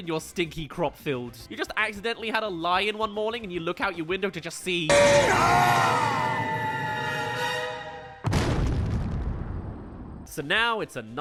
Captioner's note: crash